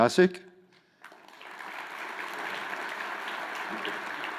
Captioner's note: crowd applauds